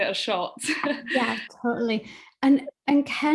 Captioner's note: chuckles